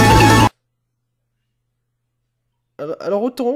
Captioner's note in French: Moment de silence intense